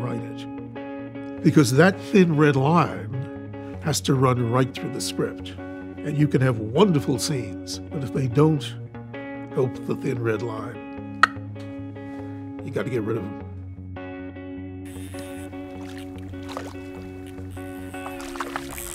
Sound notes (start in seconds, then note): 11.2 clicks tongue; 14.9 reel grinding